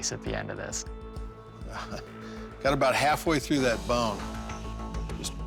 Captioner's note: laughs